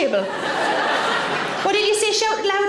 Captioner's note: audience laughing